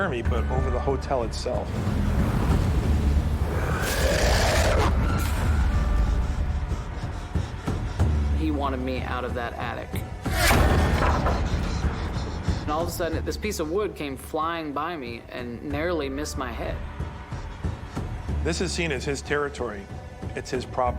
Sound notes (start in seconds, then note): 3.2 growling; 6.7 panicked breaths; 10.3 bang!